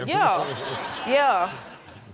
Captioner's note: laughing